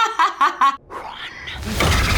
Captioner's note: laughter; whispering